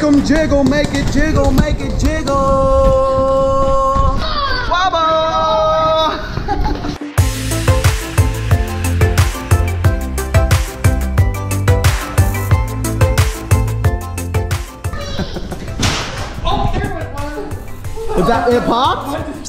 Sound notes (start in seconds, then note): 6.8 upbeat music; 14.9 popping; 15.1 laughs